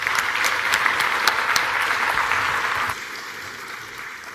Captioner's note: applause